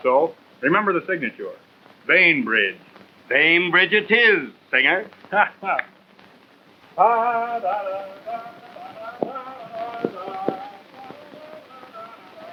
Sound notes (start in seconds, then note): 5.1 laughs; 6.9 humming